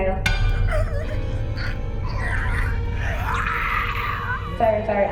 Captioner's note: strangled screeching